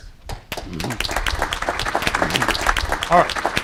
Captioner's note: applause